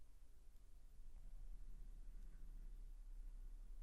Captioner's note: none